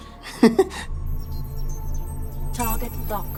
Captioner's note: Jerry laughs